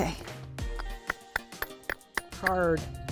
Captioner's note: rock ringing